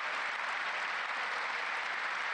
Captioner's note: applause